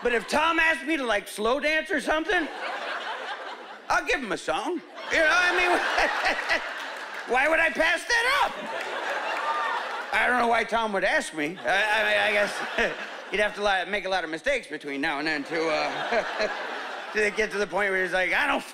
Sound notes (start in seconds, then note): 4.9 laughing